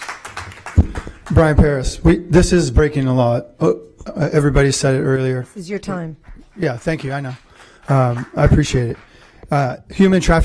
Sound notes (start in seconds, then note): 2.1 applause